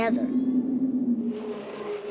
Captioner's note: air whooshing; train groaning